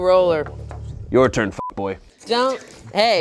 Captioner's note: beep